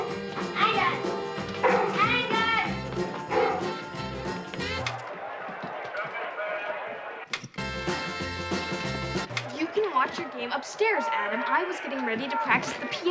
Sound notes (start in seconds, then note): 3.2 barking; 4.4 crowd cheers on tv; 4.4 music stops